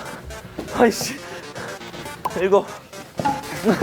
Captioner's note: tennis balls caught